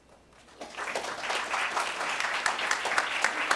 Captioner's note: applause